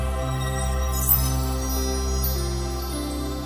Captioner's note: magic chimes